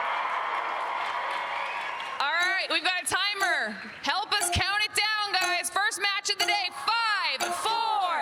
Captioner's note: cheers and applause